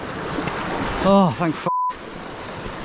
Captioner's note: beeps